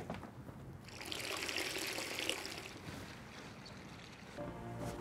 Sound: water running

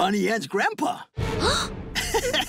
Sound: gasping, laughing

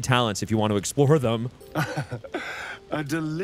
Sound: laughs

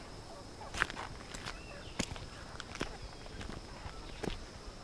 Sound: footsteps in dirt

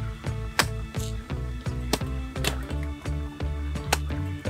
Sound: machete thudding

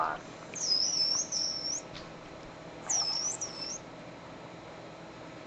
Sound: dolphin squeaking

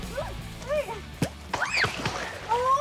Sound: screaming

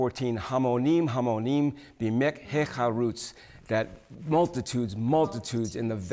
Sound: speaking Hebrew

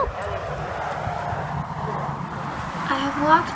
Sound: cars zoom in background

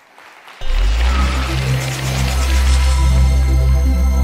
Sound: applause

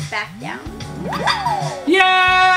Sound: cheering

